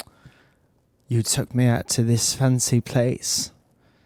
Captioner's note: English accent